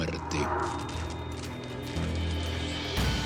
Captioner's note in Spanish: Sonido de monitores